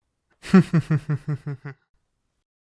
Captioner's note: laugh